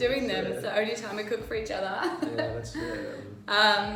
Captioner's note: laughs